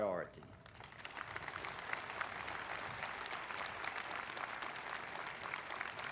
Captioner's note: audience applauding